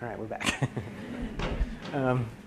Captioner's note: laughter